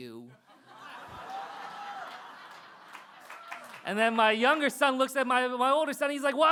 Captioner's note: laughter